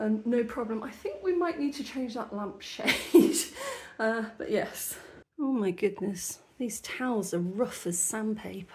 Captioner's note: laughing